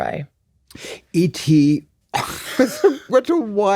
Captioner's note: laughs